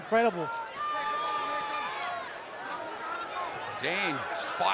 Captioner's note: fans cheering